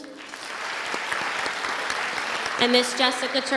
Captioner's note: audience applauding